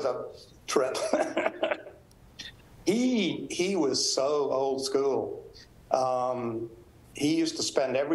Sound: laughs

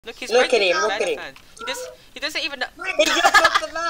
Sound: laughter

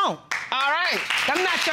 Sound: audience applauding

